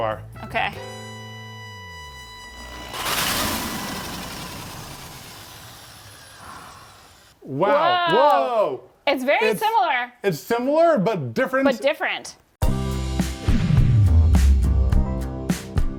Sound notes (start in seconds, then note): 0.0 gentle bright music; 1.8 power drill whirring; 12.6 gentle lively music